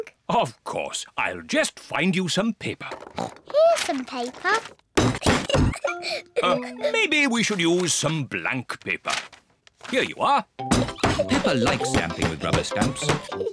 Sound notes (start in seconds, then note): 3.0 oinks; 5.5 giggles